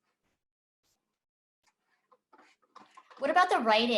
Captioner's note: pause